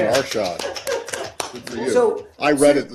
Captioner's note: laughter